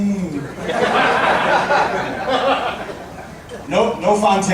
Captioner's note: audience laughing